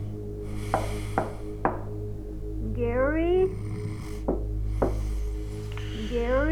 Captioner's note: snoring; knock on door